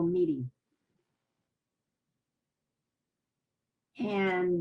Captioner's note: pauses for 3 seconds